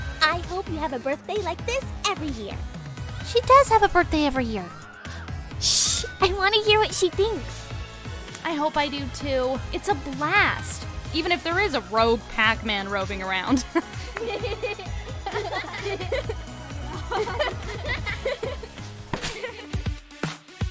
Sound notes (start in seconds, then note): 13.5 girls laugh; 17.9 upbeat music